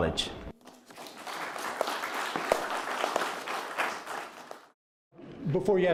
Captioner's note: applause